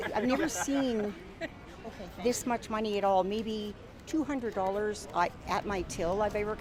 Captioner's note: laughter